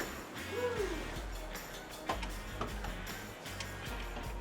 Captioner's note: whoops